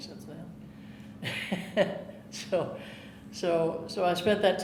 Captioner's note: chuckling